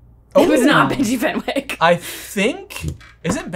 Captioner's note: chuckles